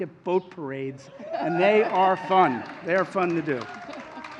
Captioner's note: applause